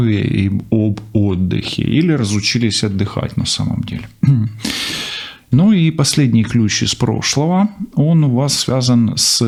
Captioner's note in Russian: откашливается